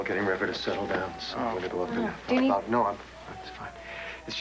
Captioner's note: river cries